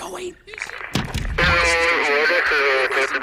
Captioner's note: walkie talks